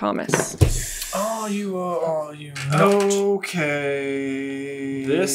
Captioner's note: accented